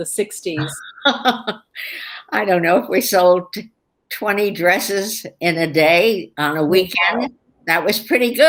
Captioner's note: laughs